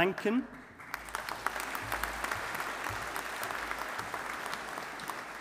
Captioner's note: audience applauding